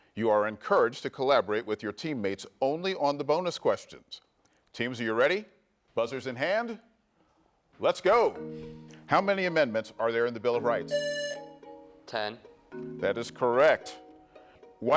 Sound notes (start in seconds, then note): 10.9 buzzer rings